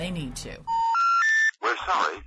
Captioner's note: telephone tone; phone Voice